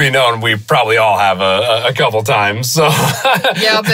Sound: laughs

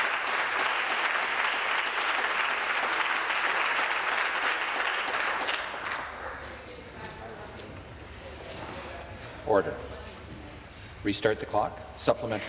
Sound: applause

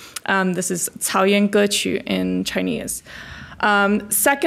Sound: foreign language

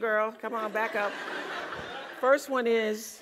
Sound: laugh

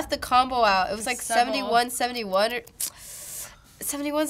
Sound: sucks in breath

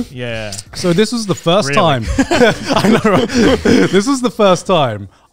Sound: laughing

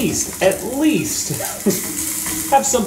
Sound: chuckles

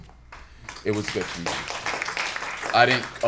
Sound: applause

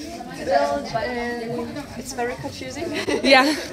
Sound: laughs

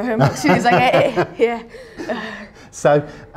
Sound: chuckling

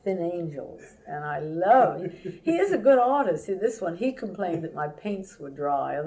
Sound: laughter

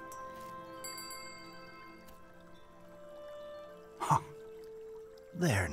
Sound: bell ringing

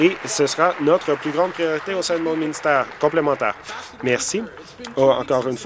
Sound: voice trailing

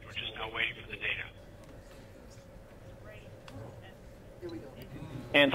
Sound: quiet chatter

